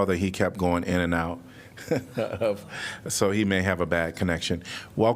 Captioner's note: laughter